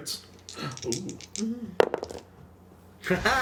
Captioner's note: dice roll